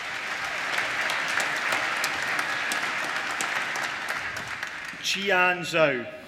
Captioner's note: applause